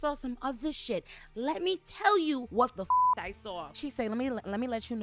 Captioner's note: beep